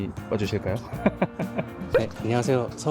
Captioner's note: laughter